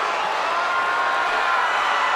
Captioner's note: Ric screams; crowd cheers